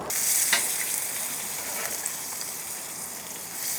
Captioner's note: bacon sizzling